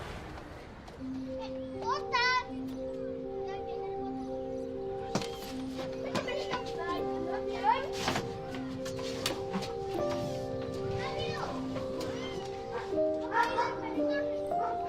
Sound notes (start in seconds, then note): 3.0 children calling